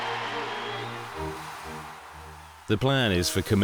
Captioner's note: crowd applauding; crowd cheering; firework powder hissing